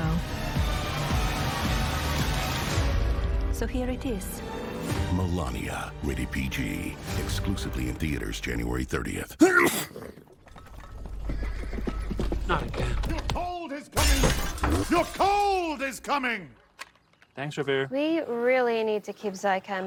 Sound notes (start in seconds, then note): 9.4 sneeze; 12.0 hooves approaching